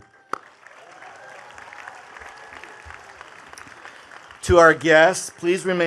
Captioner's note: attendees cheering and clapping